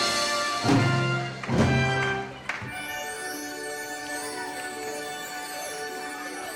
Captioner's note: applause